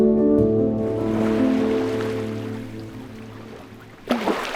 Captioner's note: water plopping